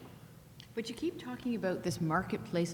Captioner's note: voiceover